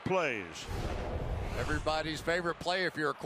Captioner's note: swoosh